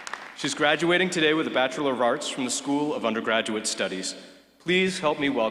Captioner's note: applause